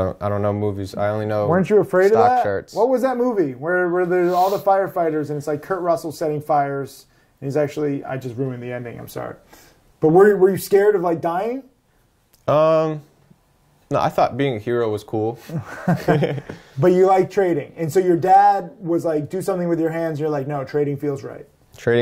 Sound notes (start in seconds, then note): 15.4 chuckling